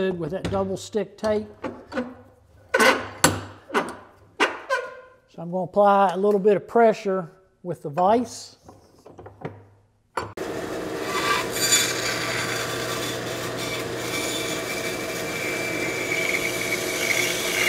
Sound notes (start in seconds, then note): 2.1 handle creaking; 10.4 band saw buzzing